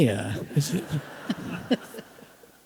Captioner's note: laughter